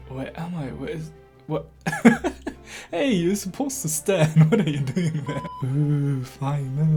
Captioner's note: laughing weakly